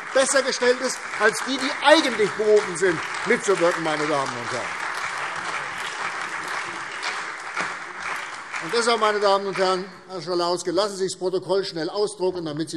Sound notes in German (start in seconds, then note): 3.9 Beifall CDU, Freie Demokraten, vereinzelt BÜNDNIS 90/DIE GRÜNEN, SPD und AfD